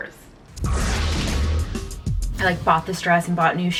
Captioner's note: whooshing